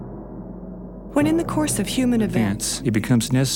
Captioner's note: several Voices Speaking